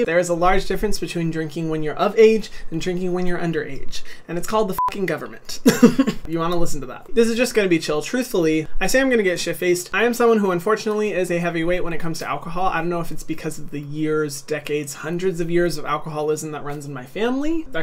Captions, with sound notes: There is a large difference between drinking when you're of age and drinking when you're underage. And it's called the (beep) government. (laughing) You wanna listen to that. This is just gonna be chill. Truthfully, I say I'm gonna get shit-faced, I am someone who unfortunately is a heavyweight when it comes to alcohol. I don't know if it's because of the years, decades, hundreds of years of alcoholism that runs in my family,